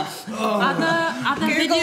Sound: groans

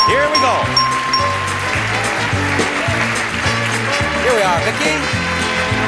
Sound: audience clapping

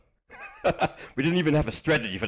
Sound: laughs

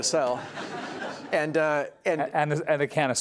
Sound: laughter

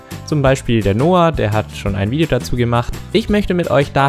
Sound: German

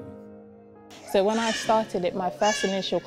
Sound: baby shouting

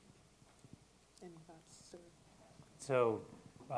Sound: speaking faintly

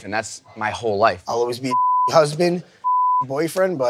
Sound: beep

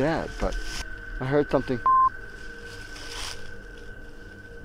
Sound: beep

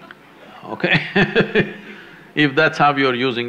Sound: laughs

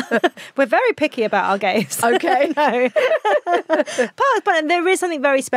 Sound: both laughing

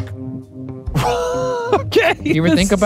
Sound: laughing

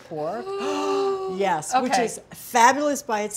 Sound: excited gasp

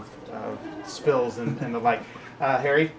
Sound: laughs

